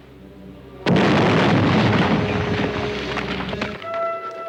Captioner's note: explosion booms